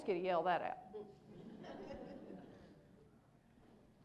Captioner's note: laughter